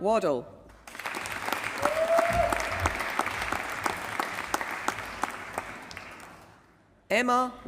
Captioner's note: applause